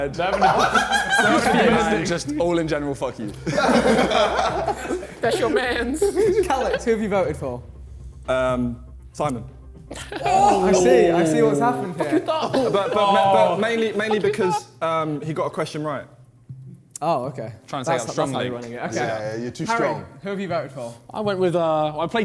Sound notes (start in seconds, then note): 0.3 JJ laughing; 3.3 men laughing; 10.2 men gasping; 11.6 men laughing